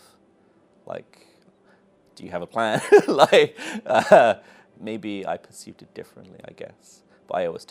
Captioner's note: laughs